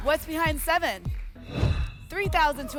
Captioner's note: whoosh